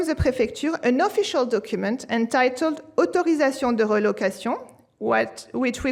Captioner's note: french